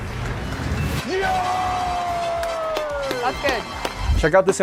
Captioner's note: man cheering